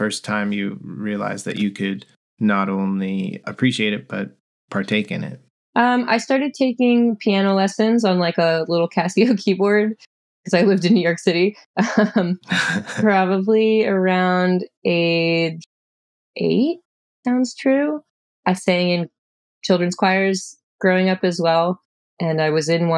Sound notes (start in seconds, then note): 12.4 laughter